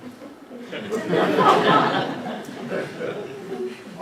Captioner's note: laughter